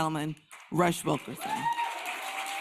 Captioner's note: applause